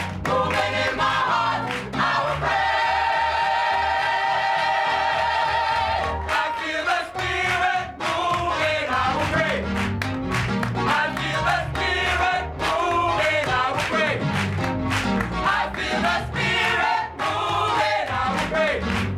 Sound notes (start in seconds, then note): 5.9 lower voices; 11.0 lower voices; 15.3 full choir; 17.5 lower voices